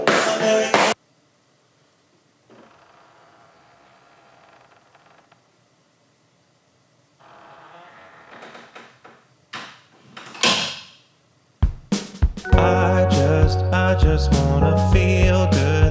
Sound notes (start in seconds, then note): 2.6 crickets; 7.2 door creaks shut